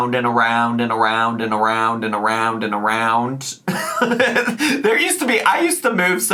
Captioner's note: laughs